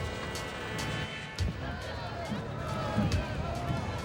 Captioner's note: cheering